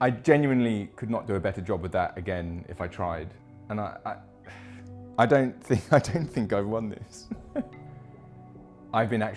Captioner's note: laughing